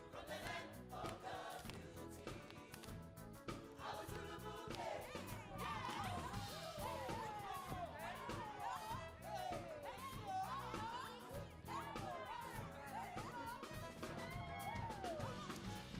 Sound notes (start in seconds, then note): 3.7 singing in Zulu; 7.1 excited chatter